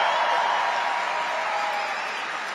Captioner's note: crowd Cheering